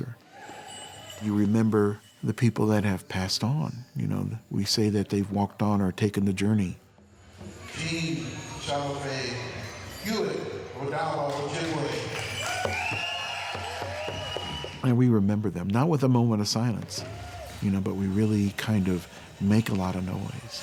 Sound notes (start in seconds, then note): 12.7 cheering